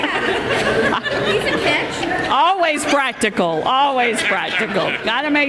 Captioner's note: laughter